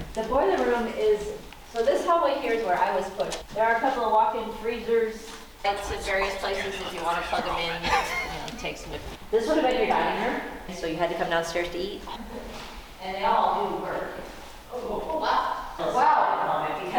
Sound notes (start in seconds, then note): 5.8 laughs